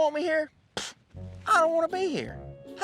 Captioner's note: scoffs